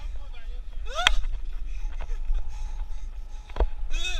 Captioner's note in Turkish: saçma garip sesler